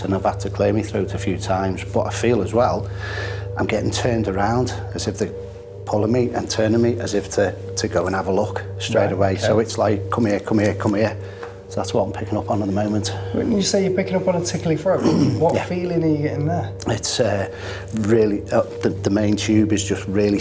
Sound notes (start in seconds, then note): 14.9 clearing throat